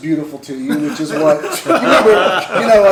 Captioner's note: laughter